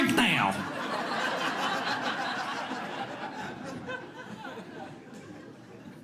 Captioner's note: audience laughs